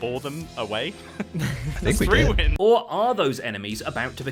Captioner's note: Grian and Scar laugh